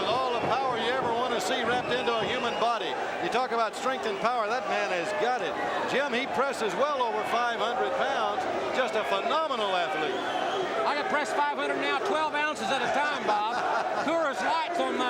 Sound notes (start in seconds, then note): 12.5 crowd chatter